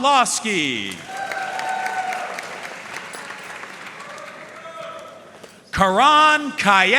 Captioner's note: audience cheering and applauding